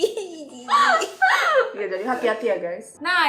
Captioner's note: laughing